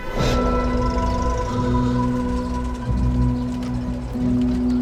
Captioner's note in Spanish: Ruido del vehículo